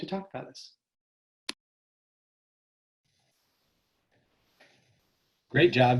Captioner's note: silence